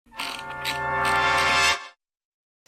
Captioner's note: wheel clicks